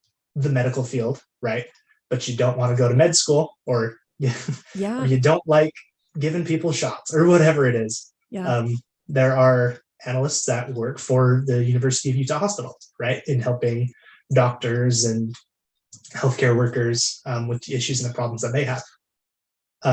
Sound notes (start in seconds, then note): 4.2 laughs